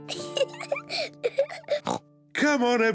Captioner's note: giggles